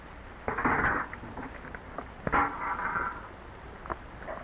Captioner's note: clattering